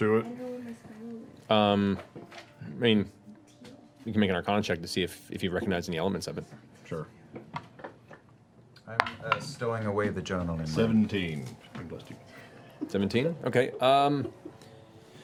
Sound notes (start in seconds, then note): none